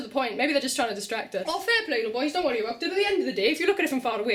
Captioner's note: welsh accent intensifies